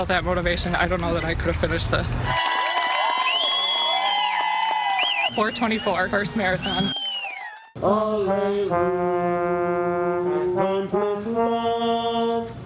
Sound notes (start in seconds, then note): 6.4 applause